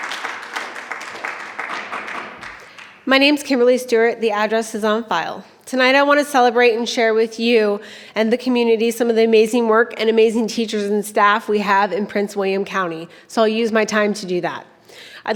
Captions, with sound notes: (gavel pounding) - My name's Kimberly Stewart, the address is on file. Tonight, I wanna celebrate and share with you and the community some of the amazing work and amazing teachers and staff we have in Prince William County. So I'll use my time to do that.